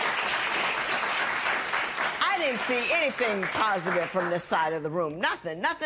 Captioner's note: applause